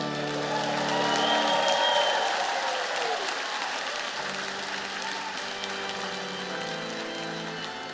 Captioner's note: applause